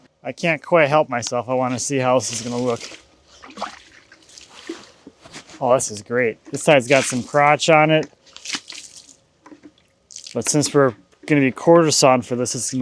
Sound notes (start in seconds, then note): 2.1 water sloshing; 8.2 water splashing